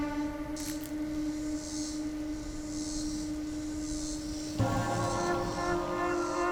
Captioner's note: cicadas buzzing; dramatic music continues